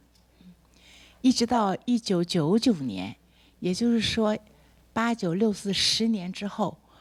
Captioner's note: speaks Mandarin